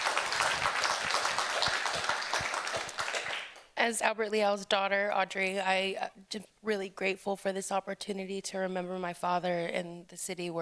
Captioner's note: applause